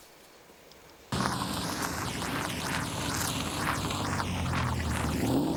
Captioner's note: car engine revving